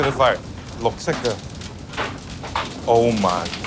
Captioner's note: fire crackling